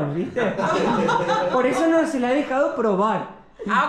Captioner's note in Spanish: Risas